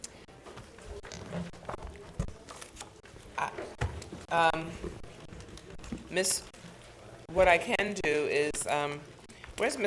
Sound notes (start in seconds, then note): 1.1 crowd chatting